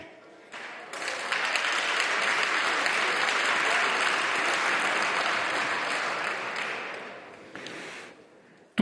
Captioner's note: roar of applause